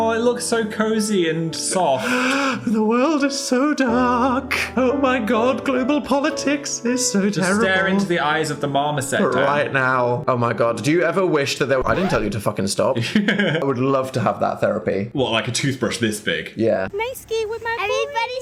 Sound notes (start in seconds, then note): 13.0 Phil laughs